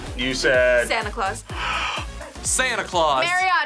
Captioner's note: gasps